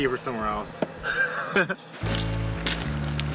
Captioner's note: chuckle